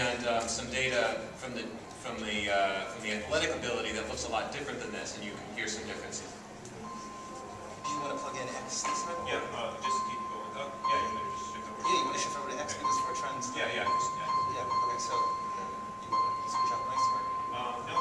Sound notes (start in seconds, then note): 7.8 computer dinging slowly becomes louder again